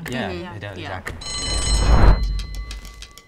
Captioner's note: bell rings; dramatic percussive music